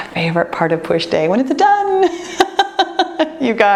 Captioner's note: laughs